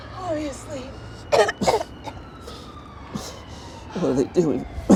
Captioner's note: jogger coughing